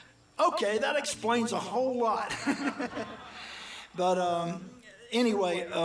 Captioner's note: chuckles